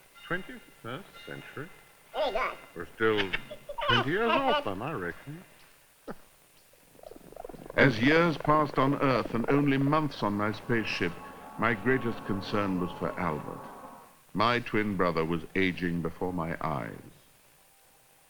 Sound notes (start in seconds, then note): 6.6 chuckles